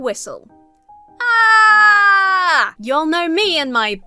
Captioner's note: shouts